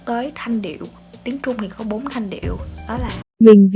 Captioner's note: Mandarin